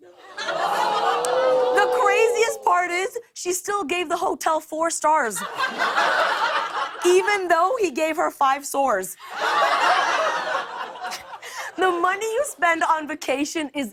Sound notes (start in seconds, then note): 0.3 audience ohhs; 5.3 laughter; 9.2 laughter